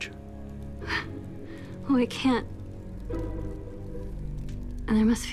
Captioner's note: scoffs